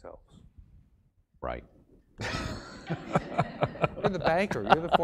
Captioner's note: laugh